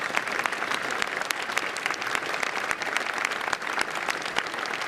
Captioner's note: applause